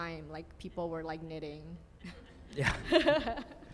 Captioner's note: group chuckles